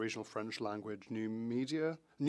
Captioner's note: speaking French